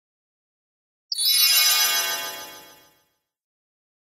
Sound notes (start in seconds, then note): 1.1 sound of fairy teleport